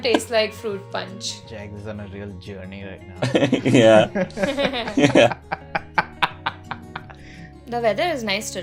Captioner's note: laughter